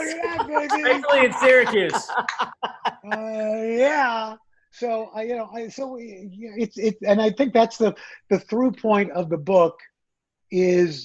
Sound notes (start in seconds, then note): 2.2 laughs